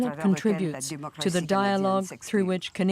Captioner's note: speaking French